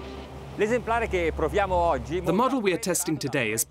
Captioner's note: foreign speaking